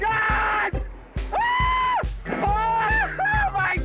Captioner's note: suspect screams